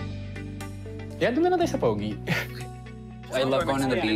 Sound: chuckles

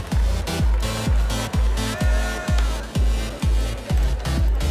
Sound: cheering

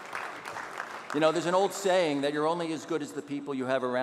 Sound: audience applauding

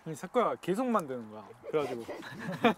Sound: haha

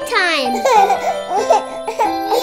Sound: children laugh

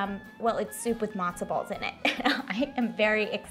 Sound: chuckles

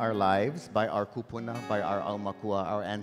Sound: speaking in Hawaiian

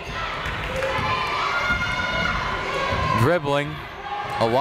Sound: people shouting in the crowd

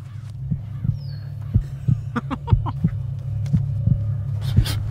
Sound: dramatic music; laughing

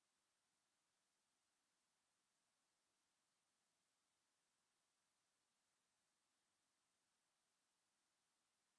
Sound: none

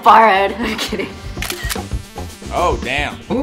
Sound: camera clicks

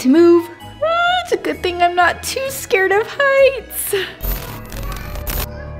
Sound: squeals; ominous Christmas music

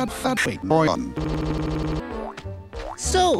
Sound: stutter

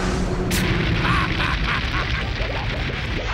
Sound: laughing

